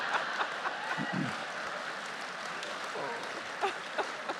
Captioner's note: justices and audience laughing; audience applauding